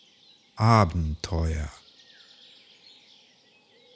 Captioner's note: german